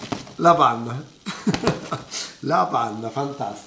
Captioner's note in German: Gelächter